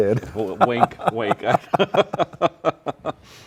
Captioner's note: both laughing